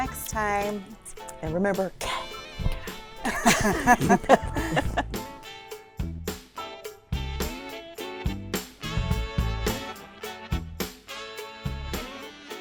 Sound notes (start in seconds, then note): 2.0 loud inhale and exhale; 2.6 laughter; 6.6 jazzy music